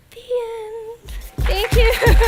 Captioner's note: applause